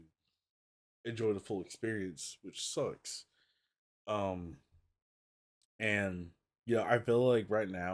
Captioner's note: none